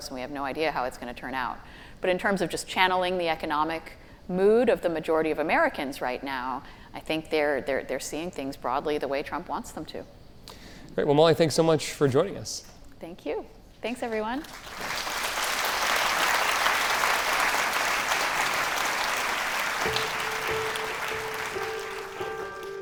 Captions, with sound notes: and we have no idea how it's gonna turn out. But in terms of just channeling the economic mood of the majority of Americans right now, I think they're seeing things broadly the way Trump wants them to. - Right, well Molly, thanks so much for joining us. - Thank you. Thanks, everyone. (audience applauding) (light music)